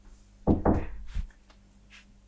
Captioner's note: knocking on door